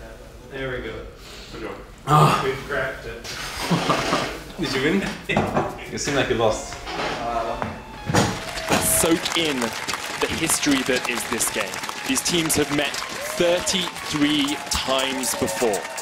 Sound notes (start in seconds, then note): 3.4 laughs